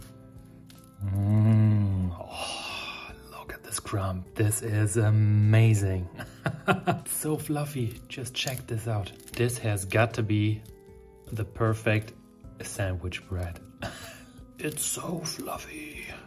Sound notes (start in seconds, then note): 0.8 bread crackles; 6.2 laughs